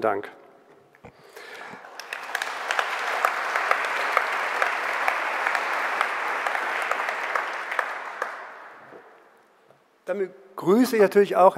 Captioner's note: general applause